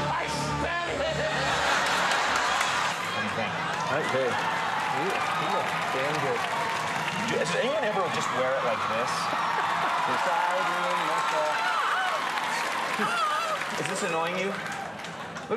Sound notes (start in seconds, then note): 0.7 crowd laughing; 9.9 crowd cheering